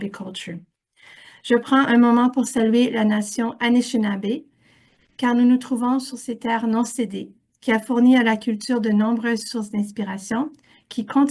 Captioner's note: French